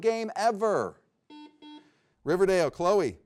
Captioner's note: buzzer beeps